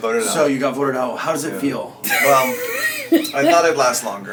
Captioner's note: laughs